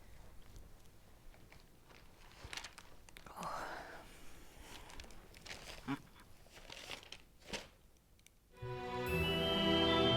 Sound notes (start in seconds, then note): none